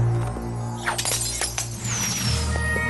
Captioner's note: smashing glass